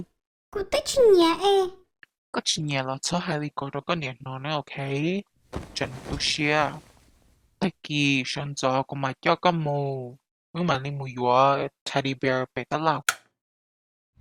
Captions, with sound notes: I don't even like the doll Even if that's so, make sure you don't say that to your mom, okay? She'll be sad Tomorrow morning I will take you to the store We'll go buy you a teddy bear [Light switch]